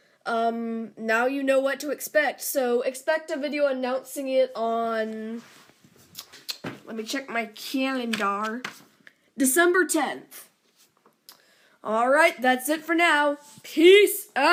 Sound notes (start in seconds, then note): 5.3 calendar rustling; 6.1 lip smack